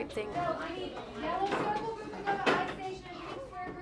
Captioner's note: classroom sounds